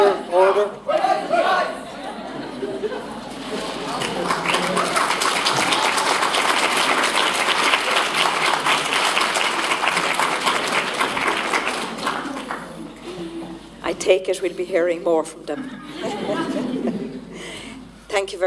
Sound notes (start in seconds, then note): 3.6 applause